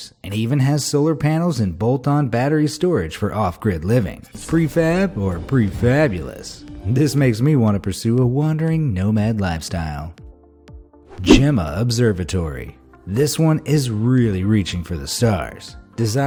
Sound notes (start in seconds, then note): 11.1 graphic whooshing